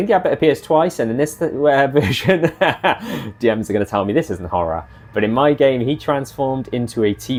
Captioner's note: laughs